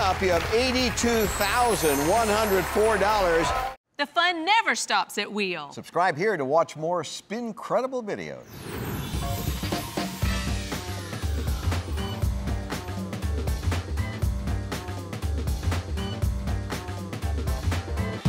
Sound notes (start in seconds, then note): 8.4 logo whooshes in; 9.2 upbeat playful music